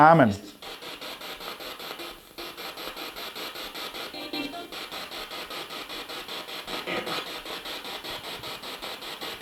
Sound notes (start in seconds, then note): 1.5 noise of the spiritbox in the background